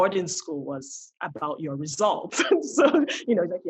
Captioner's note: laughs